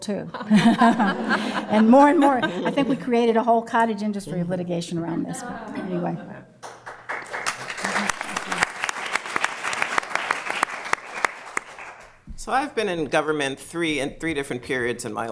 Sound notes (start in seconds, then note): 0.3 laughter; 6.6 applause